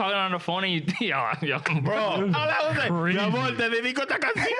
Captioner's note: speaking In Foreign Language